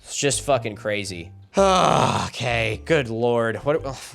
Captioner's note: exasperated